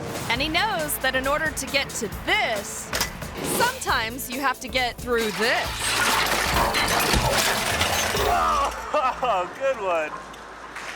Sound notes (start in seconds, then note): 2.9 wheel taps; 5.1 metal scrapes; 6.9 metal clangs; 8.2 bike smashes; 8.2 moans; 8.4 laughs